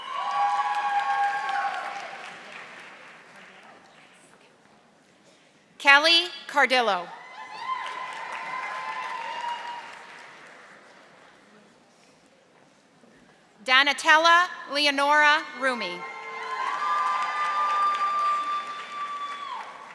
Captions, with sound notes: (audience applauding) Kelly Cardello. (audience applauding) Donatella Leonora Rumi. (audience applauding)